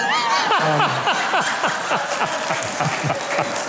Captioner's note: crowd laughing